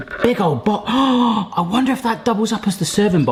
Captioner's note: gasps